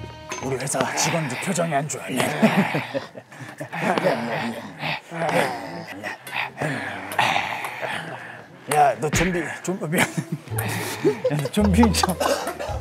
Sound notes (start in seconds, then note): 0.0 coughs; 4.4 in zombie language; 6.2 the ball bounces off the racket with a "ping"; 9.7 laughter